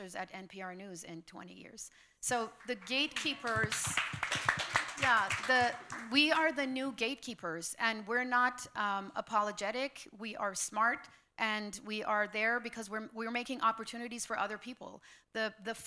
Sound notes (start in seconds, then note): 2.4 applause